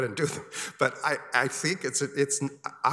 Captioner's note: chuckles